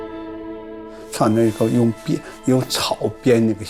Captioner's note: speaking Chinese: English translation on screen